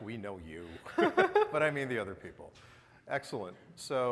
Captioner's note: both chuckling